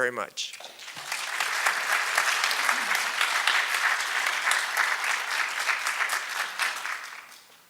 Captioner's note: applause